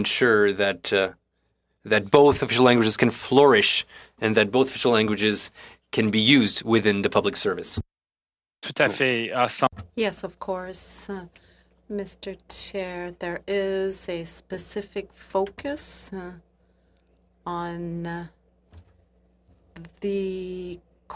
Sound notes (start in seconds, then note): 13.4 speaking French